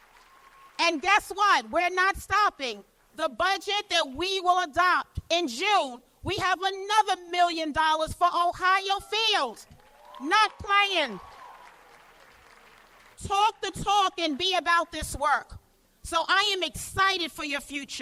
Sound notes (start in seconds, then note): 9.7 cheers and applause